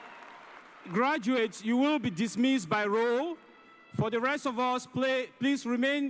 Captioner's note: cheers and applause